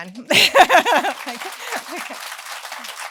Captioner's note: applause